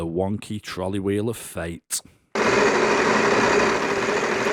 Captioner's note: wheel spinning